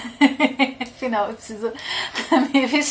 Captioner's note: laughs